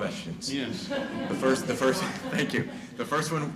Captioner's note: chuckling